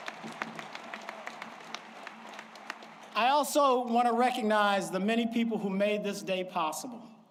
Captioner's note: applause